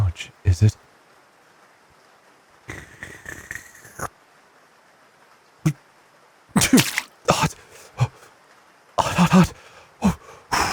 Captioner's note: loud sneeze, soup splash